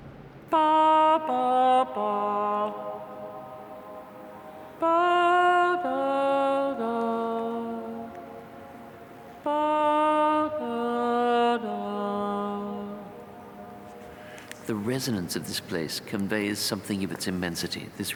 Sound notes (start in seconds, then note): 0.6 singing three musical notes; 0.6 sound reverberating